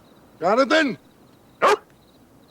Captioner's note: dog barks